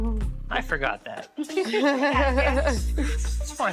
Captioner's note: laughter